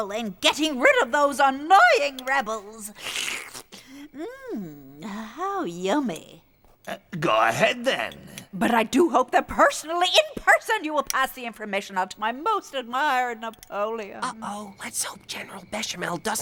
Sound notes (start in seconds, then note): 3.0 witch slurps